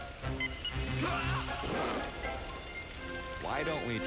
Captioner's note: beeps